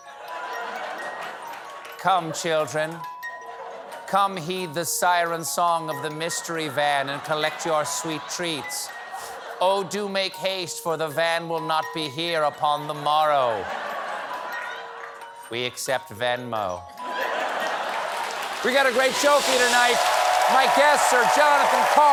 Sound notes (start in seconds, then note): 17.0 laughter; 17.4 applause